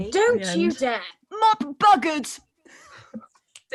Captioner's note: Sketch audio plays